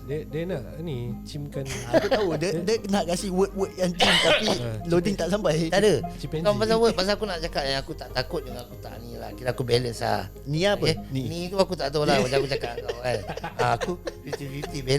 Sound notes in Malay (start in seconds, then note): 12.0 ketawa